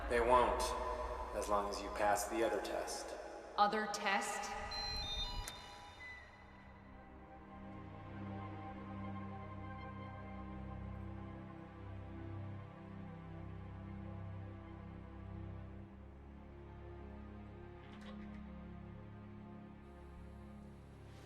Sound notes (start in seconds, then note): 4.4 signal beeping; 6.9 tense music; 16.4 tense music continues